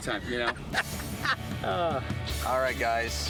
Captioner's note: laughing